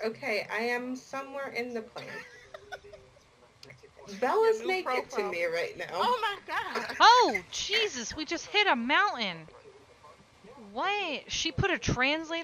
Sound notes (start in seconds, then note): 2.0 cackling